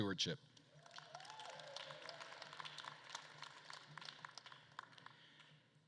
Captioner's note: attendees cheering and applauding